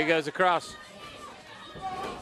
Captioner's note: crowd chatter